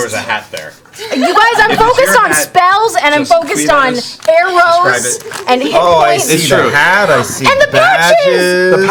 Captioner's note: gasps